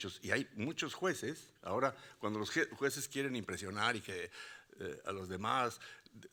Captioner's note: speaking Spanish continues